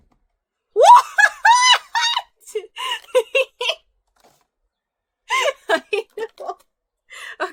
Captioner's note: laughs